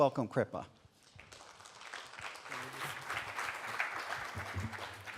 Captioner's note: audience clapping